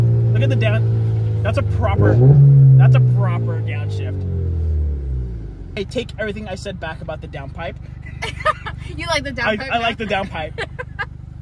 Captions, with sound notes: (engine revving) Look at the down... That's a proper... (engine revving) That's a proper downshift. I take everything I said back about the downpipe. - (laughs) You like the down pipe? - I like the downpipe.